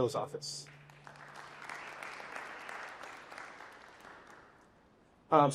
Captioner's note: applause